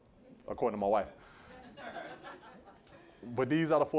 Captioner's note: laughter